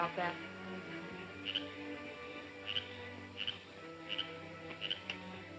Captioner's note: frog croaking